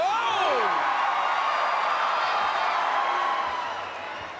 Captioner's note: crowd cheering